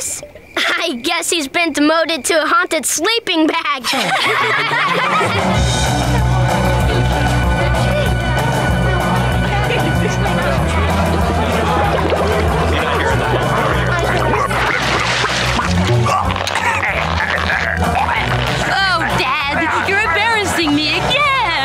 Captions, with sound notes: I guess he's been demoted to a haunted sleeping bag. [laughing] [choking] Oh dad, you're embarrassing me again!